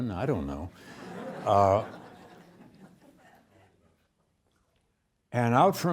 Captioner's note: students laughing